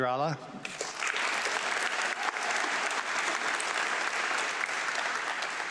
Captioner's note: audience clapping